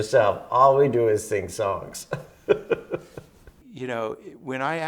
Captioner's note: laughs